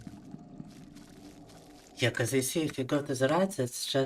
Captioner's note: speaking in foreign language